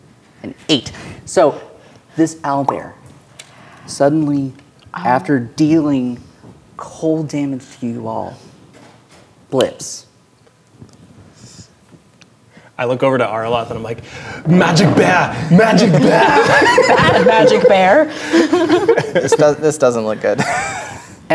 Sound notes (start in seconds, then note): 9.0 snaps; 15.3 players laughing